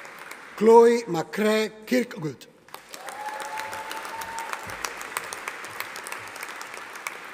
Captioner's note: audience applauding